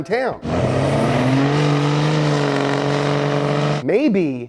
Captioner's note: engine revving